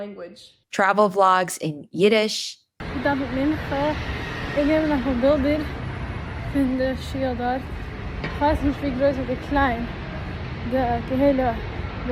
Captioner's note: Yiddish